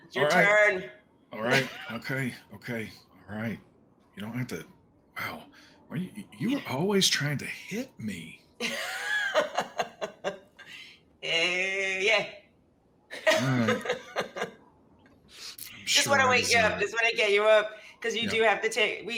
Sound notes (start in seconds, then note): 8.6 laughs; 13.1 laughs